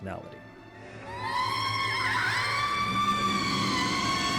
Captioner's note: Zelda screams